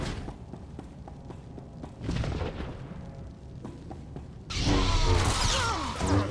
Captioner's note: gunshots